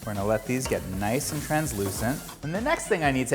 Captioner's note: pan sizzling